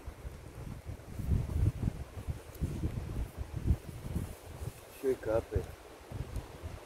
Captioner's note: rain